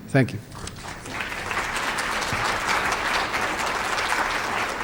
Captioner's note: applause